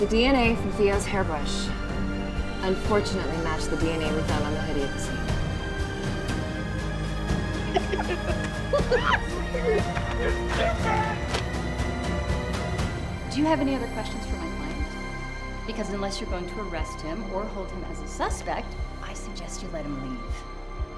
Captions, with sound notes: The DNA from Theo's hairbrush, unfortunately matched the DNA we found on the hoodie at the scene. [laughing] [laughing] You stupid! Do you have any other questions for my client? Because unless you're going to arrest him or hold him as a suspect, I suggest you let him leave.